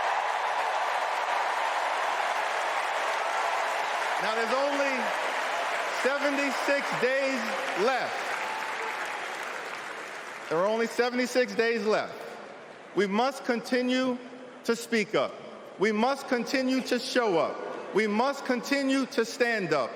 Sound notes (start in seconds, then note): 0.0 cheering